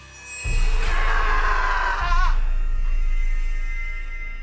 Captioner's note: Jordyn screaming; tense music